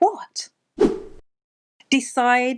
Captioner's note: air whooshing